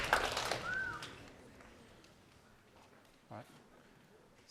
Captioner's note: applause